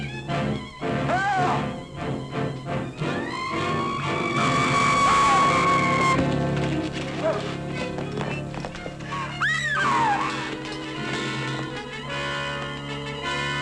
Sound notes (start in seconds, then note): 4.0 bat shrieking; 9.4 Mary screams